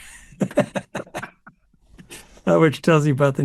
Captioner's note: laughs